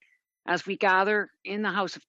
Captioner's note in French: voix de l'interprète